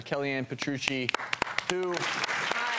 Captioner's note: applause